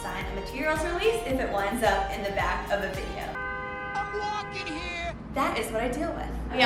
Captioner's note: car horn